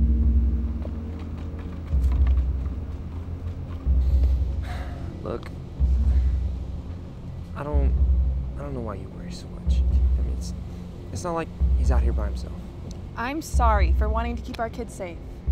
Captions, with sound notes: (uncertain music) (sighs) - Look, I don't know why you worry so much. It's not like he's out here by himself. - I'm sorry for wanting to keep our kid safe.